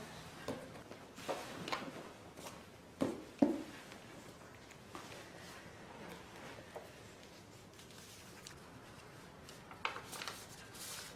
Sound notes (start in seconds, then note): 7.7 paper rustling